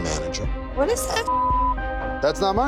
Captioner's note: beep